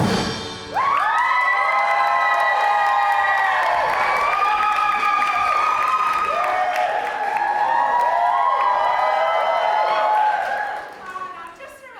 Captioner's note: audience cheering